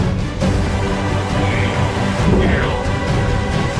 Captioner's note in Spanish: Idioma extranjero